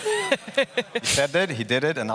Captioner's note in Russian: смех